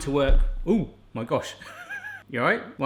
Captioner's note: laughing